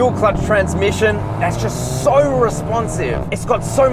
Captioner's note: car accelerates